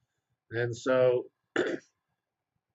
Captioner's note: cough